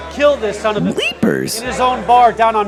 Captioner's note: voiceover